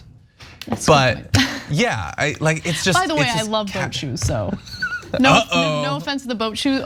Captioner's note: laugh